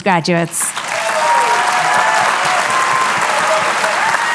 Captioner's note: cheering, applause